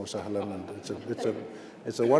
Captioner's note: speaking Arabic phrase